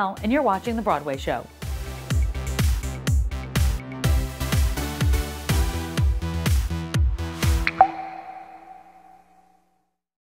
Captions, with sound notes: I'm Tamsen Fadal, and you're watching The Broadway Show. (upbeat music) (water drops)